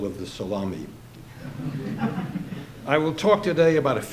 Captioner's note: audience laughing